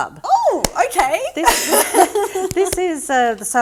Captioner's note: laughing